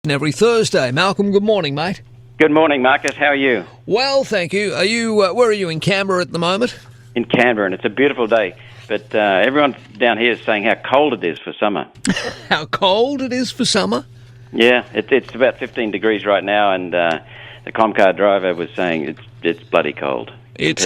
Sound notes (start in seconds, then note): 12.0 laughs